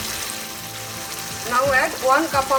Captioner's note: sizzling sound of frying